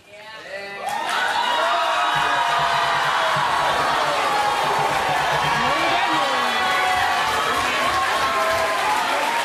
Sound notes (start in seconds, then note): 0.8 audience yelling, applauding